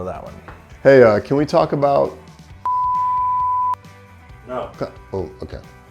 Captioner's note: beeps